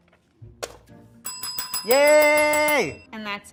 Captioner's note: bell ringing